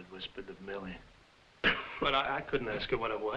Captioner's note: Jakob coughing